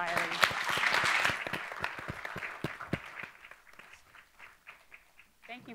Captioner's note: audience applauding